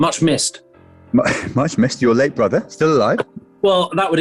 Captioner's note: laughs